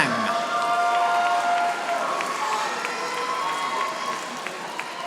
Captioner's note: audience applauding